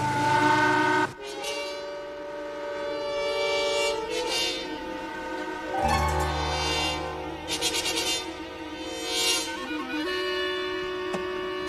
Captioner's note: boat horn blowing